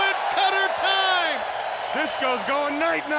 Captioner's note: audience cheers